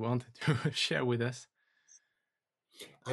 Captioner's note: chuckles